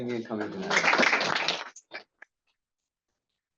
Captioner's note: crowd applauding